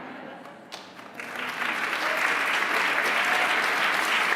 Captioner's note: applause